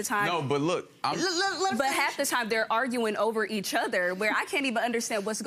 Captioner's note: judge hushing